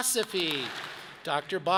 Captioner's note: audience claps